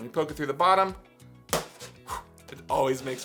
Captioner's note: pop